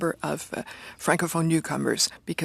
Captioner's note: speaking french